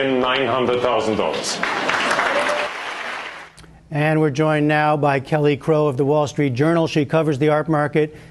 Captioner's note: applause